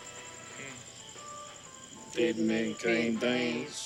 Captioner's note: both With Southern Accent